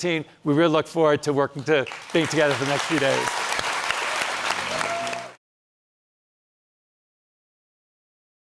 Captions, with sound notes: We really look forward to working, to being together the next few days. (cheering and applause)